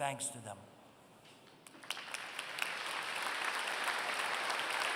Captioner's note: applause